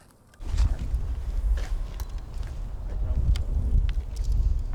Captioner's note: air whooshing